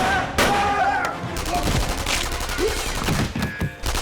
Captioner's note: screams; rifles firing